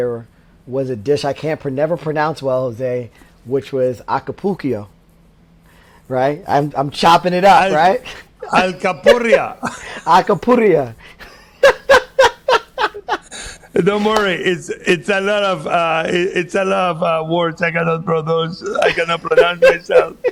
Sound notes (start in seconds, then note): 11.1 laughs